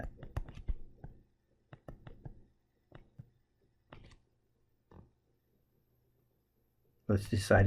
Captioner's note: tapping Sounds